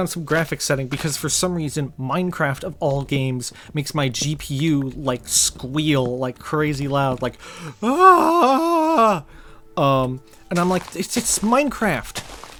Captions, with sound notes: some graphics settings because for some reason Minecraft of all games makes my GPU like squeal like crazy loud like (Mimics a wail of agony) and I'm like, It's Minecraft